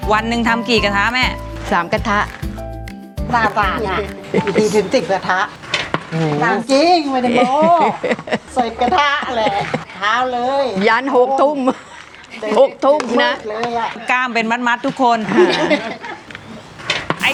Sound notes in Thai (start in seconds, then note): 11.6 เสียงหัวเราะ